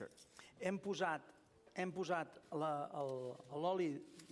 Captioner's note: non-english speech